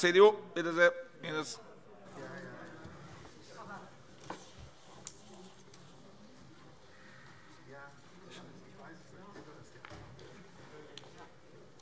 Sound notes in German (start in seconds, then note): none